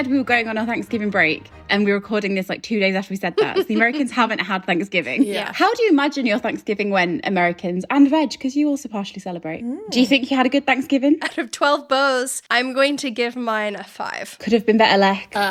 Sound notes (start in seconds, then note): 3.3 laughing